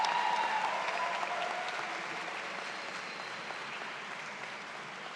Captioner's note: audience continues cheering